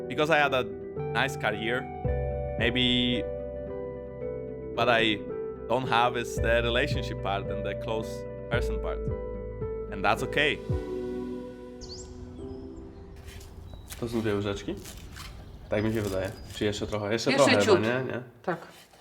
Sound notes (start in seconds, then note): 10.7 birds chirping